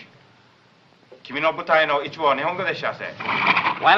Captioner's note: continues speaking in japanese